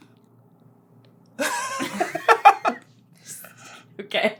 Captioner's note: laughter